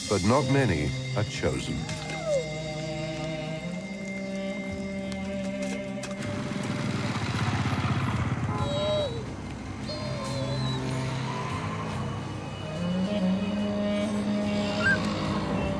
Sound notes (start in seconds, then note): 9.8 whimpering